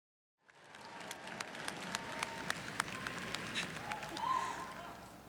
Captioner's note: graduates applauding